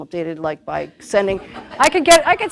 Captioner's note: laughter